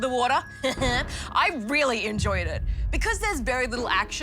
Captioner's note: chuckles